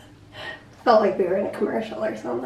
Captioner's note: none